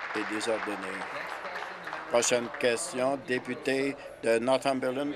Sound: applause

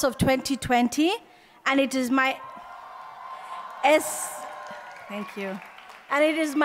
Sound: applause

